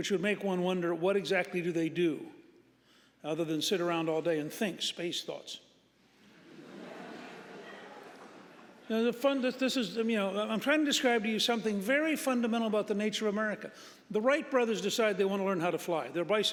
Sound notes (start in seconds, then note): 6.3 audience laughing